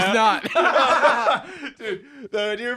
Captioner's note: both laugh